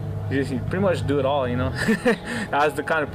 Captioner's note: chuckling